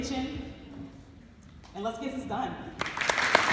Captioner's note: applause